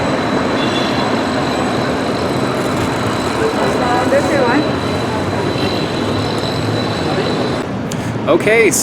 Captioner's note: background street noises